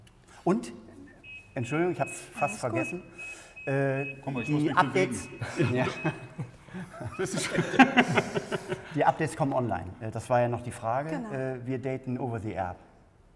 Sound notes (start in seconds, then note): 5.2 laughter